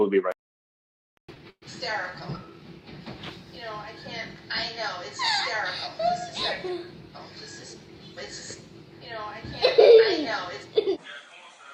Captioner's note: laughing